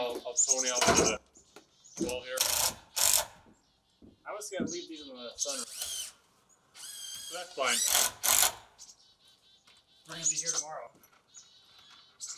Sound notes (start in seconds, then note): 2.3 drill grating; 5.4 drill whirring; 8.7 drill whirring